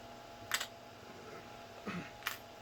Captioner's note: plastic clatters on desk; clears throat